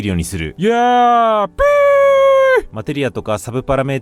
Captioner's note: yeaaaaah!! whooo!!